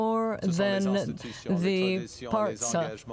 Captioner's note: speaking French